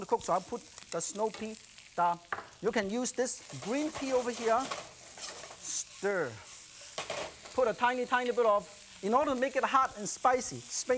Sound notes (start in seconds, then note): none